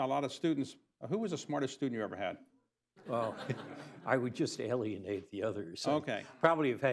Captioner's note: laughter